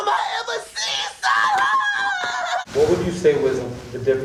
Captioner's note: high pitched laughing